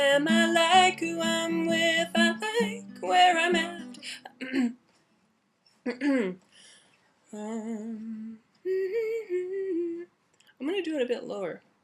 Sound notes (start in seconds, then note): 6.0 clears throat; 7.4 hums